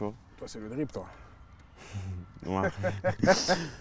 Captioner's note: laughs